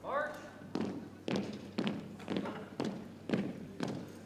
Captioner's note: boots thumping